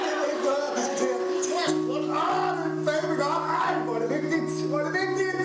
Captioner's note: crowd laughing; speaking in foreign language